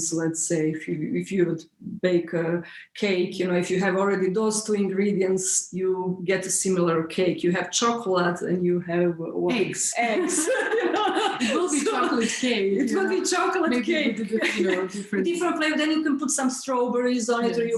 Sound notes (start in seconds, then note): 10.1 laughs loudly; 14.2 laughs